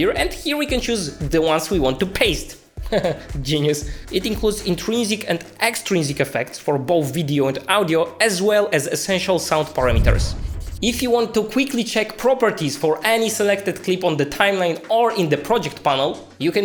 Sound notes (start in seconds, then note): 2.6 laughs; 9.8 air whooshing